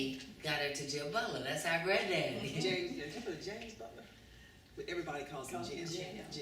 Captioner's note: laughter